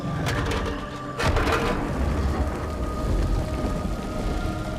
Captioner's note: clanging